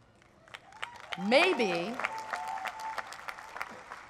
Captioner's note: applause